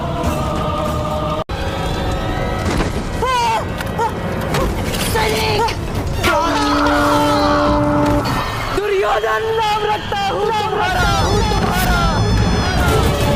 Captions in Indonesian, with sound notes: [berteriak] [berteriak] duryodan na rakta